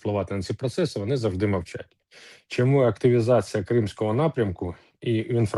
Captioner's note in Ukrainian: сопіння